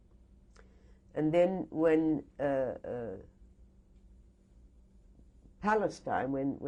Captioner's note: pauses for 3 seconds